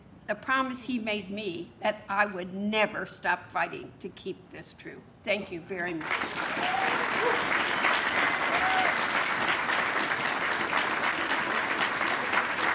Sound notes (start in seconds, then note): 9.9 applause